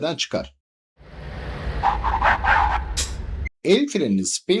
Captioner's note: braking and Tire Skidding Sounds